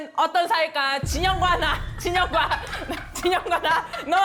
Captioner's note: live audience reaction sound